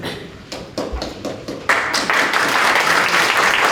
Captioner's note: applause